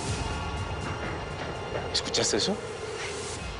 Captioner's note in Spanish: Pasos apresurados